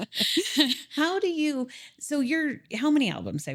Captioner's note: laughing